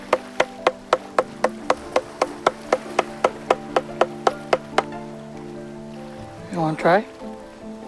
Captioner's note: tapping